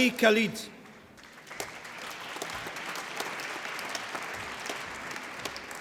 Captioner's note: applause